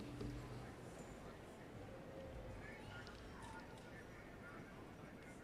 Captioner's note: audience chattering